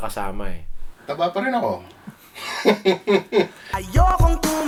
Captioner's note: laughs